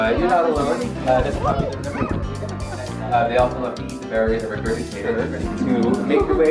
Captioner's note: presenter faintly speaking